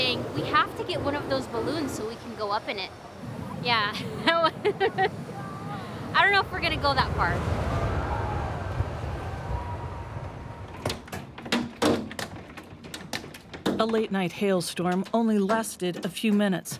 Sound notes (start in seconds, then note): 4.0 laughs; 7.5 hail hitting window